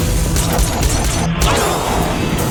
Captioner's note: gun firing